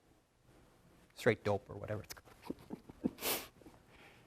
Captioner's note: laughs